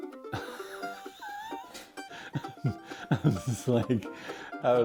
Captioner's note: laugh